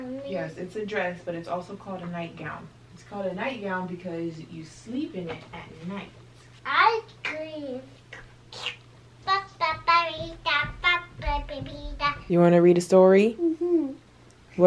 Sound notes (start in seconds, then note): 8.2 slurping; 8.5 playful babbling